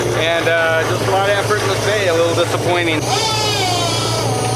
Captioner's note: motor whirring